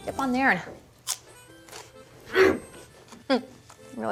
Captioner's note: crunch